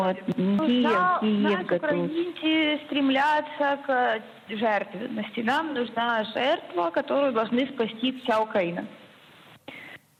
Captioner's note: speaking Russian